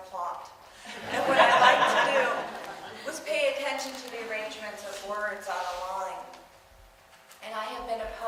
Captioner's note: audience laughs